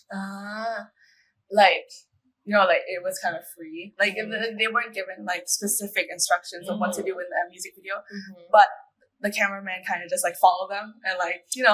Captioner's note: in Thai